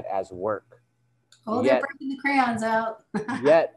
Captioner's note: static interference